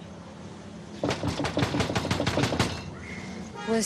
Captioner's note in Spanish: golpes